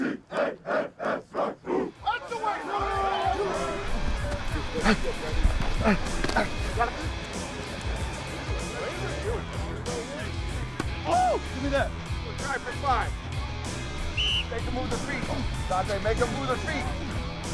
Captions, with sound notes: (upbeat music) (whistle) - Make them move their feet.